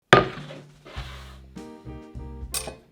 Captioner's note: board sliding; upbeat jazz music playing in background throughout video